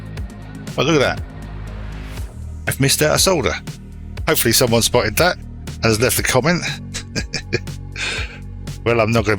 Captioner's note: laughs